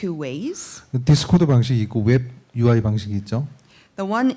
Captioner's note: speaking korean